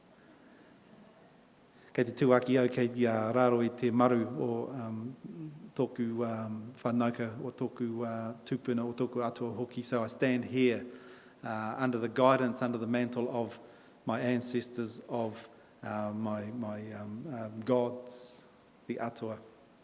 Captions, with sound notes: [in Maori] [in English] So I stand here, uh, under the guidance, under the mantle of my ancestors, of, uh, my, my, um, um, gods, the atua.